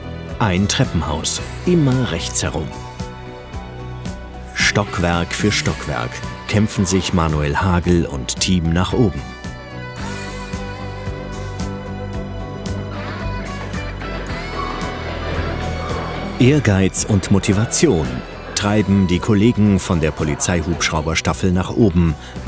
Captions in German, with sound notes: Ein Treppenhaus. Immer rechts herum. Stockwerk für Stockwerk kämpfen sich Manuel Hagel und Team nach oben. (Dynamische Musik) (Keuchen) Ehrgeiz und Motivation treiben die Kollegen von der Polizeihubschrauberstaffel nach oben